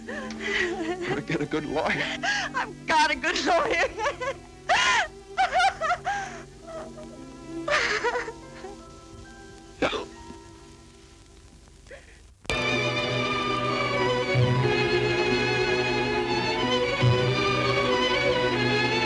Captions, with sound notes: - You'd better get a good lawyer. - I've got a good lawyer. (crying) (dramatic music)